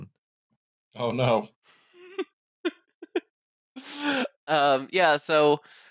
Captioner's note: laughs